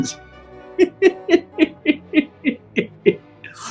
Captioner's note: giggling